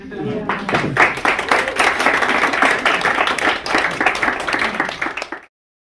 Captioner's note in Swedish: Applåder